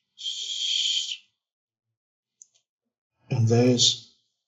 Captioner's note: light whistling